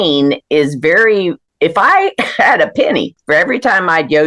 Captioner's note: laughs